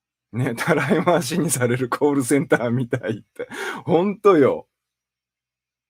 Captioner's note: laughs